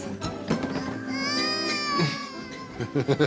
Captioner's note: screams